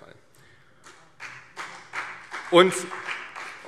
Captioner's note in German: Beifall CDU